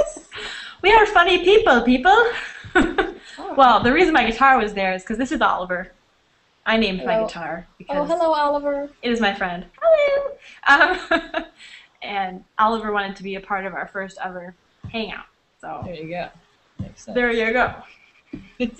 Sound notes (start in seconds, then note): 2.4 laughs